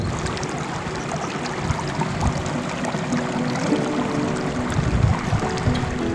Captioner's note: desert water sounds